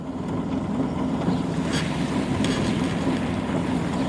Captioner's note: machinery rumbling